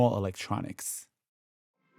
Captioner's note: soundbite of archived recording